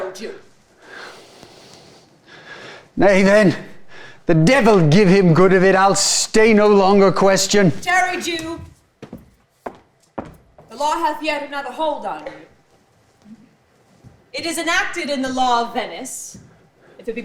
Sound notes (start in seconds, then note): 0.3 deeply sighs; 7.7 footsteps clomping